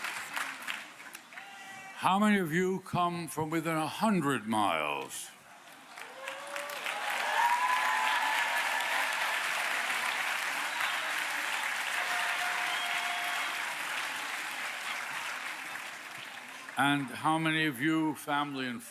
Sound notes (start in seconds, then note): 7.7 applause